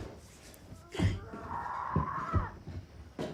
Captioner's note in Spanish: Anna gritando; objetos golpeando